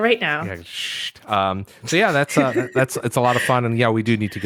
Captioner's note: shushing sound